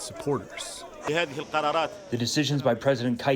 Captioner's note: through translator